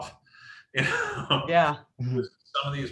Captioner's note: laughs